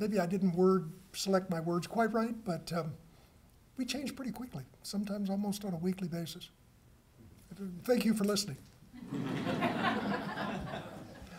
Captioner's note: laughter